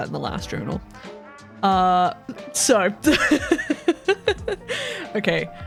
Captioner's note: laughs